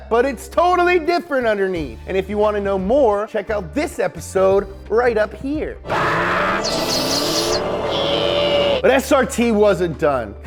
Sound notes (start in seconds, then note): 5.8 screaming; 5.8 dramatic music